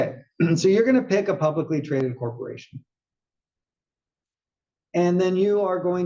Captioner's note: cough